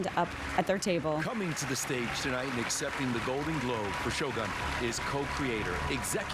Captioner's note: applause